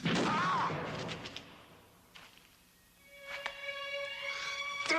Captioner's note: fists thudding; Dan groaning; dramatic music